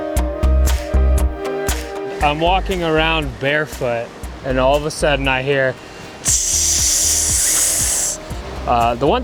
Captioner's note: rattlesnake sound